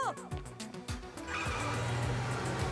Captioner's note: tire screech